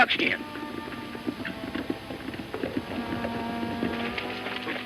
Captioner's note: hooves clopping